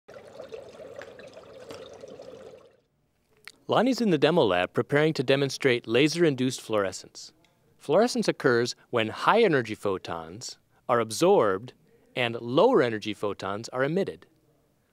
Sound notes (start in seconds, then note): 0.0 bubbling